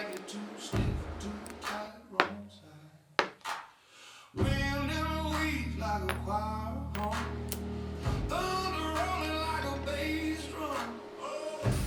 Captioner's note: TIG welding